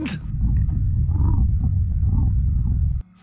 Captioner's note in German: Magengrummeln